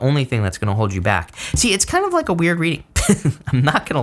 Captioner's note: laughs